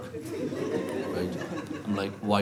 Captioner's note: laughter